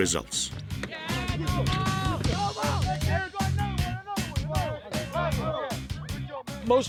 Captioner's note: upbeat music; students cheering